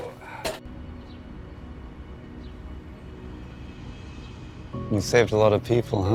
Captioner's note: gentle music; Josh grunts